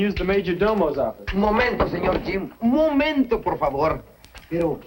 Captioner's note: speaking spanish